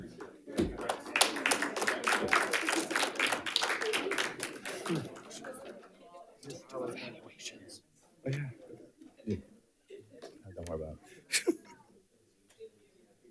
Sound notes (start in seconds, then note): 0.4 panelists applauding; 1.4 panelists chattering